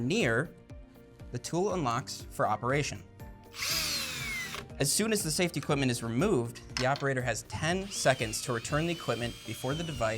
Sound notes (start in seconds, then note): 3.5 drill whirs